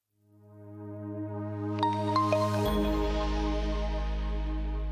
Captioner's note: logo chiming